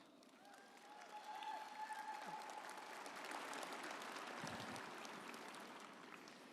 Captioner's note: audience applauding and cheering